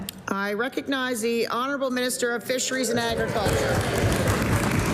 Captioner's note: applause